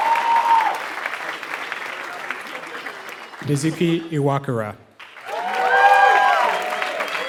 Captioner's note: applause